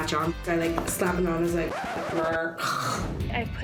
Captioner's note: snores